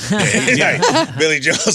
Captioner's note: laughing